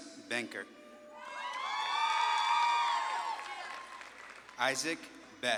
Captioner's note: audience claps and cheers